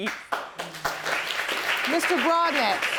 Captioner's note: audience applauding